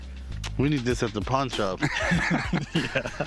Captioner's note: laughter